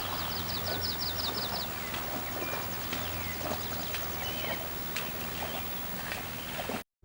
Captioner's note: birds chirping; sloshing hoof-steps